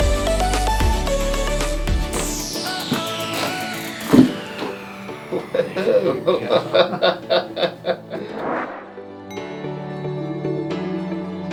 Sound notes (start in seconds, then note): 3.2 bones cracking